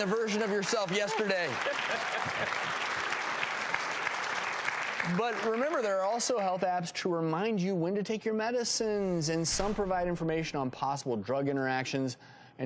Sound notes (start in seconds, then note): 1.7 audience applause